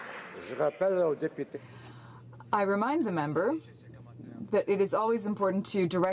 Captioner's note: some Applause